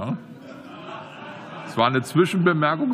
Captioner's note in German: Lachen